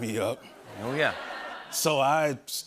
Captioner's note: laughter